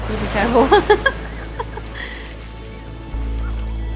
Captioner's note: chuckles